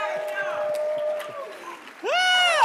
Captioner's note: laughs